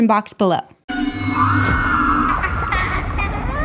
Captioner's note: person screaming; scary music; voice 2 evil laughing